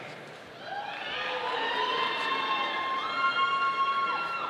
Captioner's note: audience cheering